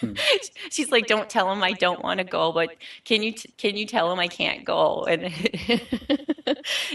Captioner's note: laughing